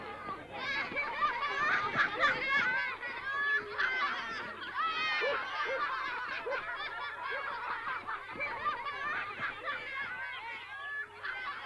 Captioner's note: background chatter; childrens' laughter